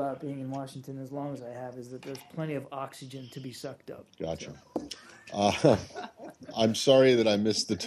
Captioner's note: laughter